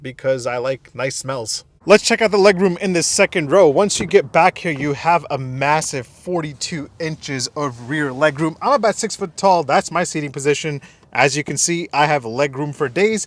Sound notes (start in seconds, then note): 3.1 door opening